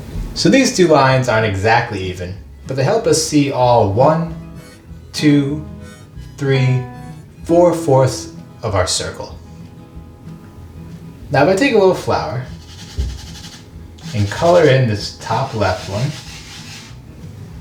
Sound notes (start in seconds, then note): 13.9 scratchy noise of flour rubbing